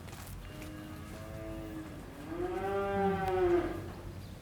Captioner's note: cows moo